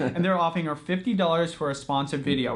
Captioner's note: laughing